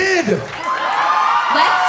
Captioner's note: cheering